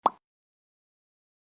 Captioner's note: popping sound